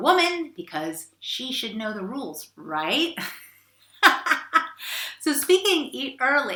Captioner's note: laughs